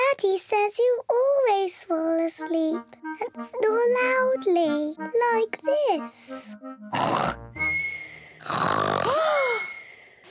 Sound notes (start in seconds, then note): 6.7 snores loudly; 8.4 lady pigs gasp